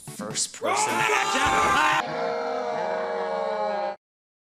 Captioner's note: shouting